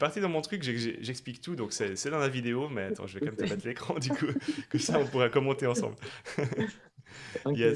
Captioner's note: laughs